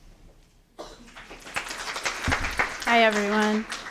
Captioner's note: applause